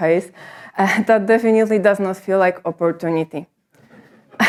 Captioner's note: chuckles